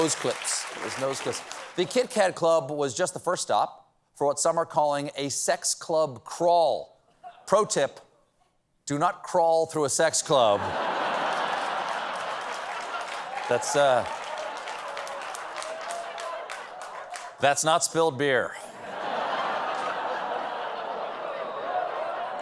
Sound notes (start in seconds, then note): 10.5 laughter; 10.7 applause; 18.7 laughter